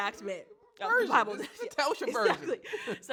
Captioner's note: chuckles